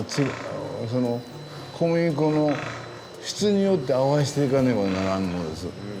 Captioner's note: continues speaking Japanese